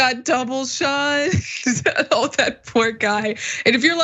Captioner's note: laugh